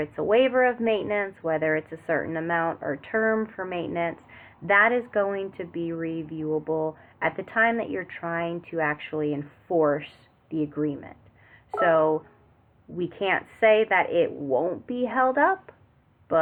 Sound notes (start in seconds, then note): 11.7 beep